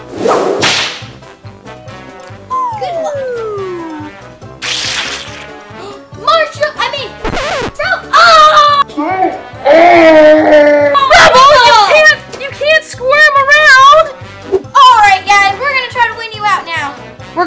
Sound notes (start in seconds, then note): 0.0 whip lashes; 1.7 swing flute; 4.2 doll sloshing; 5.7 sighs